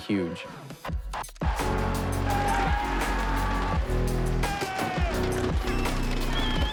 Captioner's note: upbeat music; crowd cheering